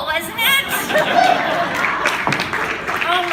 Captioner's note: applause